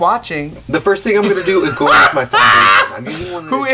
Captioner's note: laughing